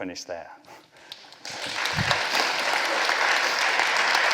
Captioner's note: applause